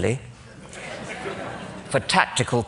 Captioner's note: laughter